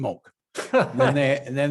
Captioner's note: laughs